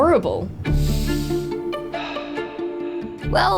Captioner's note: breathes deeply